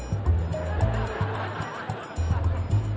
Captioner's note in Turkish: Gülme efekti